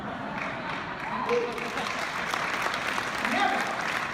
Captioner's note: clapping